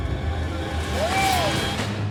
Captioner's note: exclaims